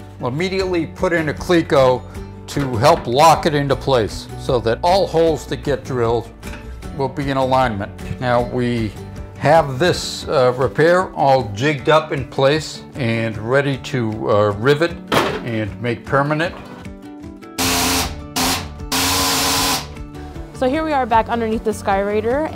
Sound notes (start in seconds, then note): 18.9 machine whirring